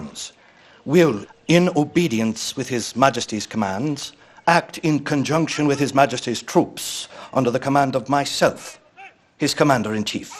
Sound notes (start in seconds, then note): none